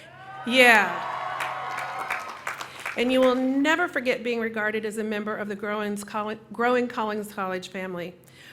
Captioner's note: cheering